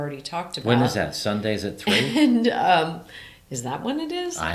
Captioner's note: laughs